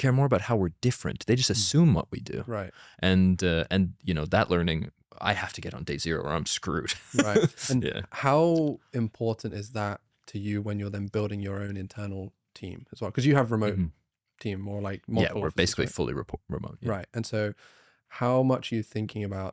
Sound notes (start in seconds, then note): 6.9 laughs